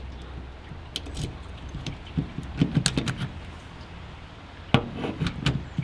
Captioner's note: grinding; rattling